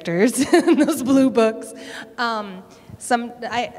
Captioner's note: laughter